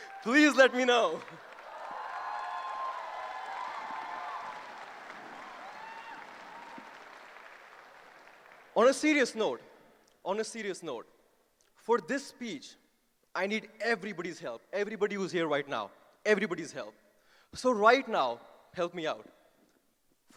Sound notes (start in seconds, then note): 1.9 cheering